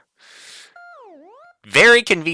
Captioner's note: inhaling